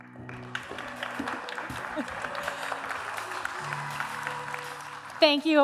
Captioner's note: applause